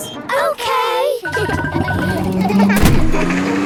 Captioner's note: kids laughing